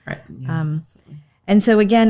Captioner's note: murmurs